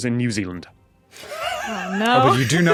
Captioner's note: wheezes